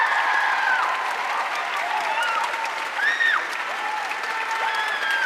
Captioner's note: audience cheering and applauding